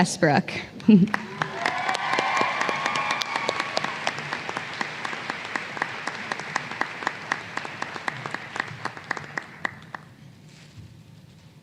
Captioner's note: applause